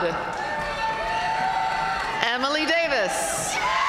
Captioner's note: audience cheering and applauding